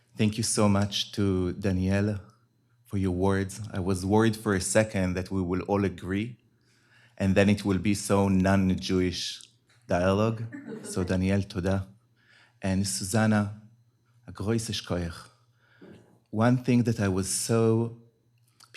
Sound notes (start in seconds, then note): 12.1 hebrew; 14.8 yiddish